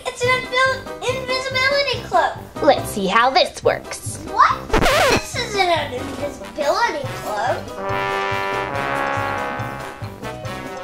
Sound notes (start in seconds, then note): 4.6 record scratches; 7.0 creepy music